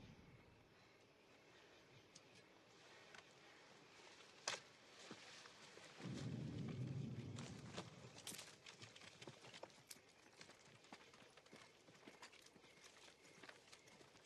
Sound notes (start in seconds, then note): 9.0 footsteps approaching